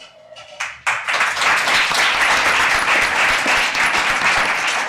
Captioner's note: audience applauding